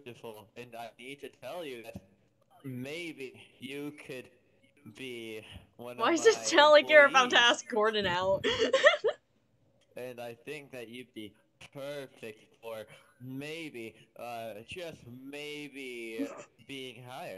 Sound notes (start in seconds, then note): 8.3 laughter